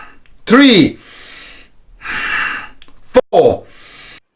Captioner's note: breaths deeply